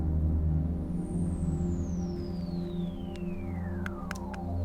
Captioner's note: twigs snapping